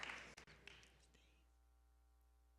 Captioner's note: applause